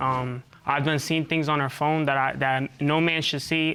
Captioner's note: stutters